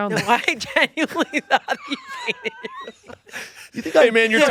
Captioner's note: laughs